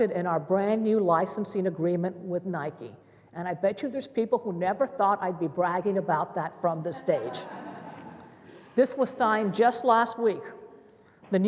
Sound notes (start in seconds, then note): 7.2 laughter